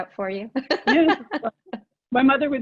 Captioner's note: laughing